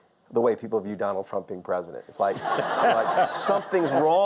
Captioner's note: audience laughter